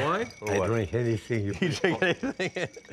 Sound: laughs

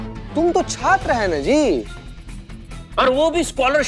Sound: none

